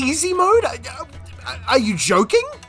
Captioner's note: confusion noises